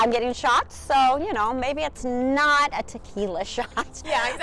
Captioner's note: laughs